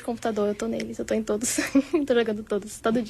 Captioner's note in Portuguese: risadas